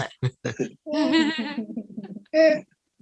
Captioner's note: all Laughing